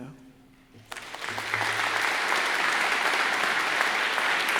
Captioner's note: crowd applauds